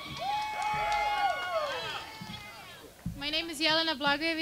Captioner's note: cheering and clapping